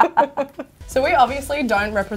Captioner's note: laugh